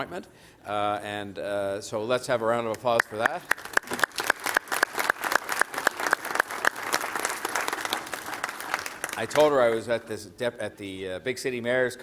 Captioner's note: applause